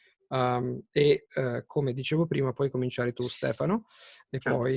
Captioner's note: in Italian